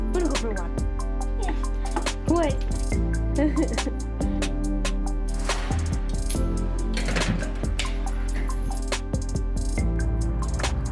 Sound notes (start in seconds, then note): 3.4 laughs; 5.3 chill music